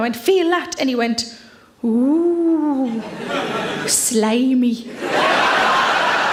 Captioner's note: audience laughs